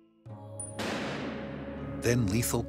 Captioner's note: door slamming shut